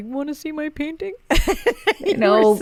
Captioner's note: laughing